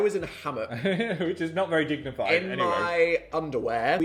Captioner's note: chuckles